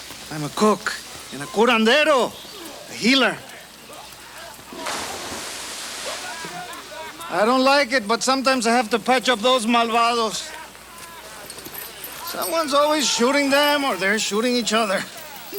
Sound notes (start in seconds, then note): 4.7 water splashes; 9.7 speaks Spanish